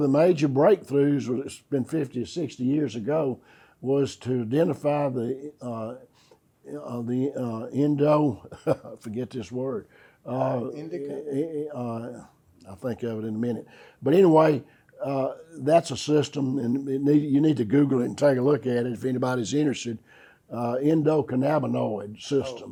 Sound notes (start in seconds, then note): 10.3 laughs